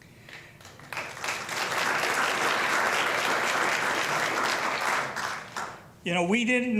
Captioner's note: applause